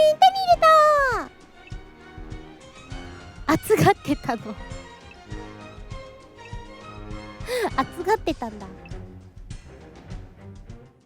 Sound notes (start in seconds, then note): 3.5 laughs; 7.4 inhales